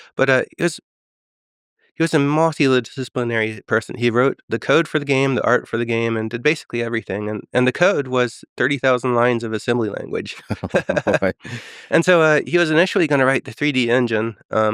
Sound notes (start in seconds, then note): 10.3 Tim and Lex laughing